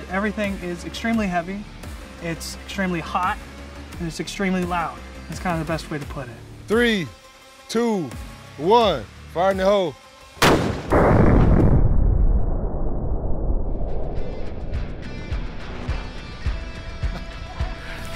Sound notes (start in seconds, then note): 10.4 single heavy gun fire; 14.1 upbeat music